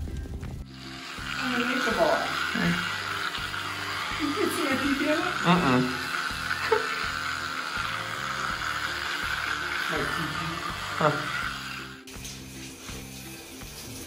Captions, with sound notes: I'm a nature boy. (buzzing) Can you see my pee-pee in it? (loud buzzing) My pee-pee.